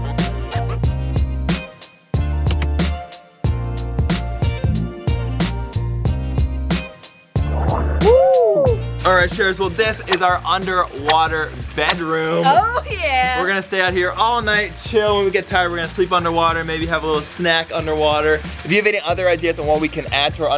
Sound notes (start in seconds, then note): 8.2 shouting